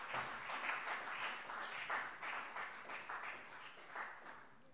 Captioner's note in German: Beifall CDU und BÜNDNIS 90/DIE GRÜNEN